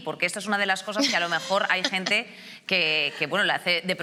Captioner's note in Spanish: ríe